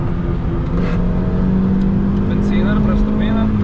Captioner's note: engine revving